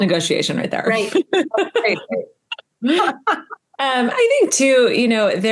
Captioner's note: everyone laughing